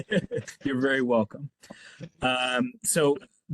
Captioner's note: laugh